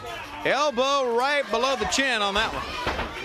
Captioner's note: crowd cheering